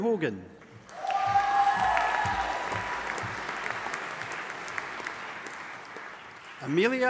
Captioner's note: audience applauding and cheering